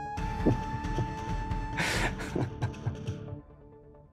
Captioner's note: Laughing